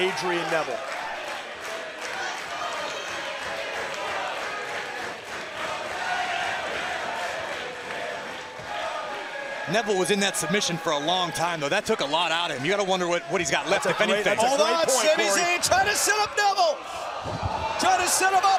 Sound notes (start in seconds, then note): 2.1 crowd cheering